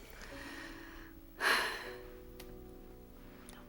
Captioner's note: sighs